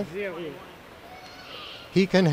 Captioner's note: child wailing